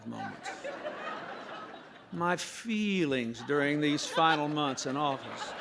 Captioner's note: laughter